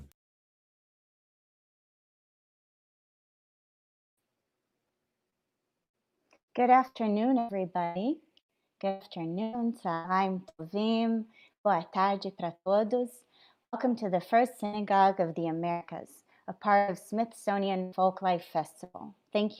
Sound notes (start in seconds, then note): 9.9 speaking in Hebrew; 11.2 speaking in Portuguese